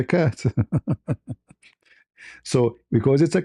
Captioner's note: laughter